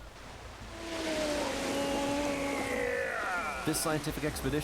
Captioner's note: straining